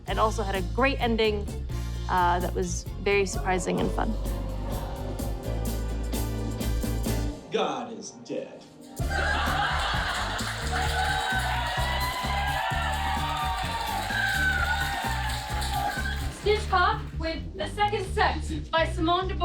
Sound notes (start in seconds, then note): 9.0 audience laughs uproariously; 11.0 audience cheers and applauds